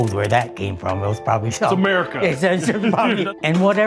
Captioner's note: laughs